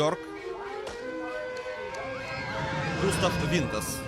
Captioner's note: kids on ride screaming with excitement